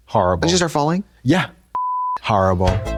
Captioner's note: beep; electronic bop